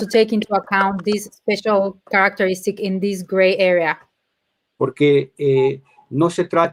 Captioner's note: speaking in Spanish